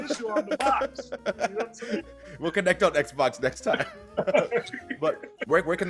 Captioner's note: laugh